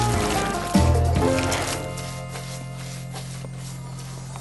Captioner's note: brushing; paint oozing